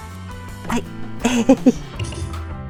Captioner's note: laugh